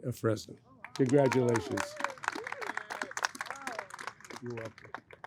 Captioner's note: audience applauds